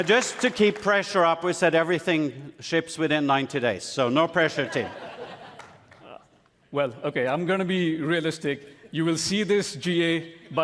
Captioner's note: applause; cheering and applause